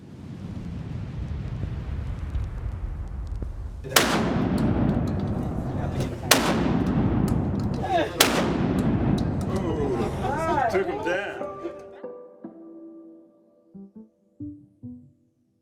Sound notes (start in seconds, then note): 3.8 gun shots; 13.1 soft music